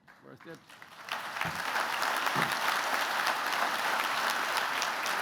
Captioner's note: applause